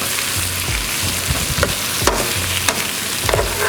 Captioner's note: oil sizzling